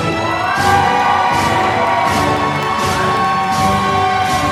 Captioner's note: applause